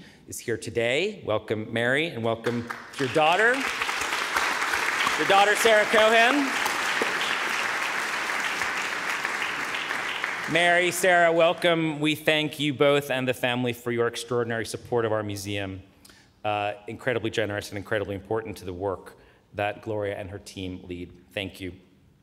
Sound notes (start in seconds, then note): 3.1 audience applauding